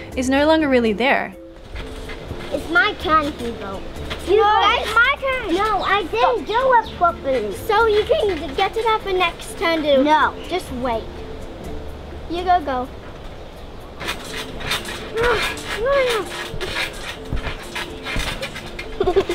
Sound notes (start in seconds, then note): 14.5 trampoline creaks